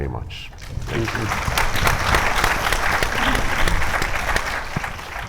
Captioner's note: audience applauding